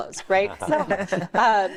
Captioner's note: all laughing